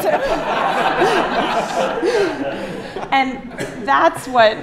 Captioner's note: laughter